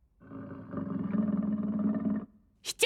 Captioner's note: low growling; speaking backwards